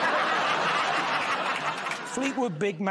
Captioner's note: laughter